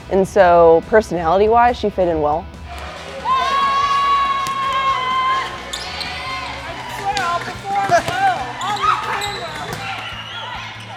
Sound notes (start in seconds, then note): 3.2 screams